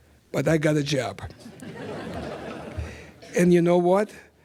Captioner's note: laughter